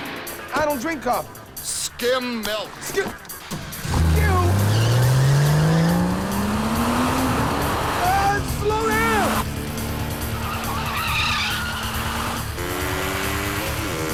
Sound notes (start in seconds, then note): 4.8 car engine revs; 10.7 tires screeching